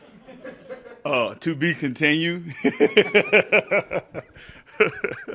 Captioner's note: laughter; laughs